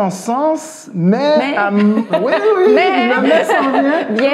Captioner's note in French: rires